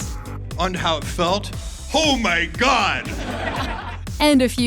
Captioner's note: laughter